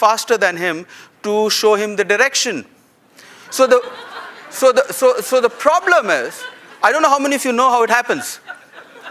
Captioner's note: laughter